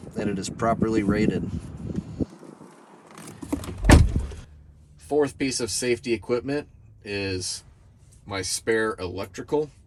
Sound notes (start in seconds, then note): 3.2 door closing